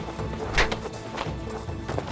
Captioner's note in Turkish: Tokat sesi